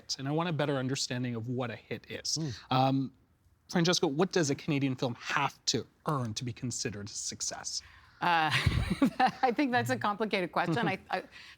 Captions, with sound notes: And I want a better understanding of what a hit is. Um, Francesca, what does a Canadian film have to earn to be considered a success? Uh... (Laughing) I think that's a complicated question.